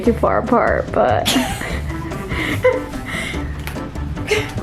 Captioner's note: laughs